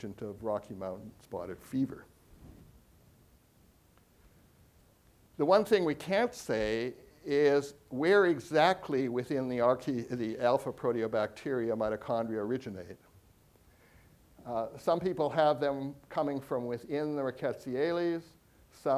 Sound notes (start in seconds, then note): none